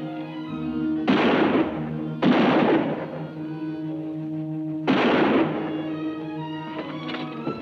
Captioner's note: exciting music; guns bang